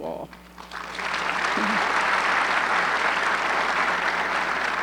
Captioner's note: audience clapping